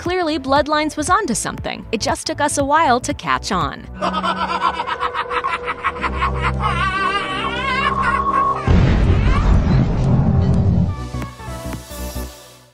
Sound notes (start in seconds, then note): 3.9 evil laughter; 8.6 explosion